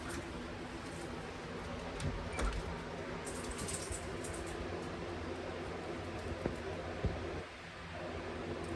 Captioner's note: door opens and closes, then locks the door